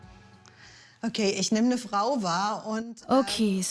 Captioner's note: speaks in German